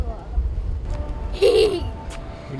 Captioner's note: laughter